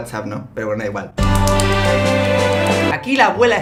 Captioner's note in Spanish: Aplausos y música pambisita